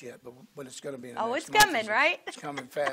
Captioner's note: laughs